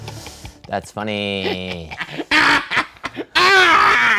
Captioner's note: shouting